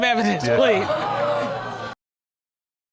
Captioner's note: audience exclaiming